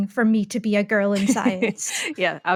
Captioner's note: laughing